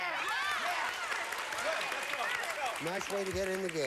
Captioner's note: audience applauding